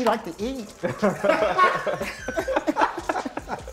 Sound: laughter

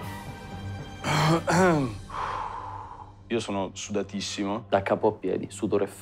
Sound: clears throat, exhales

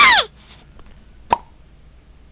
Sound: pop!

